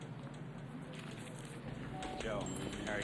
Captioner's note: paper rustles